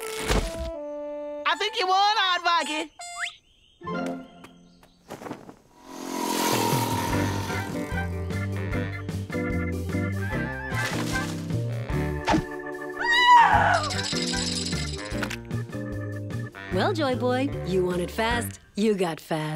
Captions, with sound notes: I THINK YOU WON, AARDVARKY. (car buzzing) AAH! (teeth chattering) Well, joy boy, you wanted fast, you got fast.